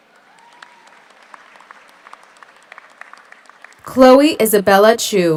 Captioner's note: audience cheers; audience applauds